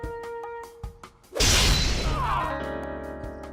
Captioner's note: grunts